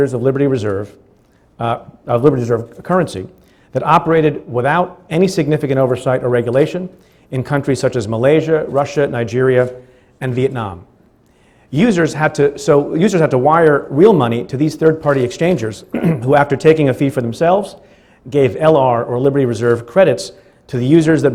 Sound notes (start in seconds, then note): 15.9 clears throat